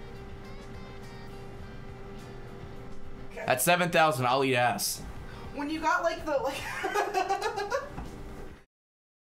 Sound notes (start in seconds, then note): 6.4 laughs